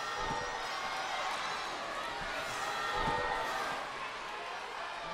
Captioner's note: crowd clamors